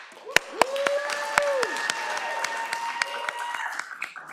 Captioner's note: audience applauds